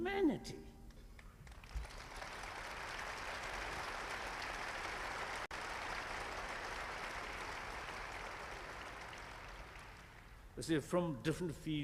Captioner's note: applause